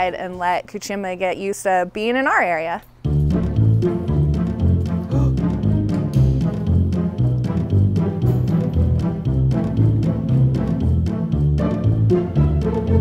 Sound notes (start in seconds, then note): 3.6 mischievous music; 5.1 gasp